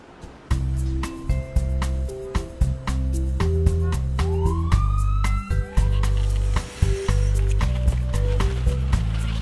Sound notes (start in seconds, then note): 0.1 instrumental music; 4.1 siren wailing